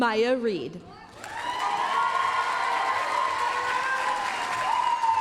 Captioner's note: applause, cheering